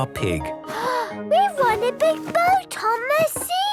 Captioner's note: gasps